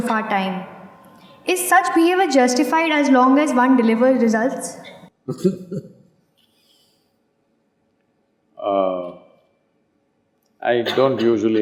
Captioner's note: Sadhguru laughs